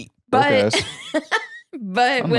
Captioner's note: laughs